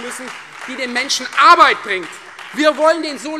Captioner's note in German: Beifall Freie Demokraten und CDU